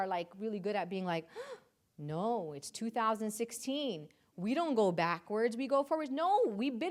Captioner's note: gasps